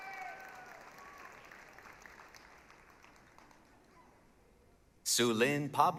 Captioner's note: applause, cheering